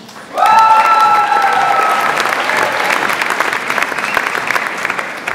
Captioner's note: audience applauds and cheers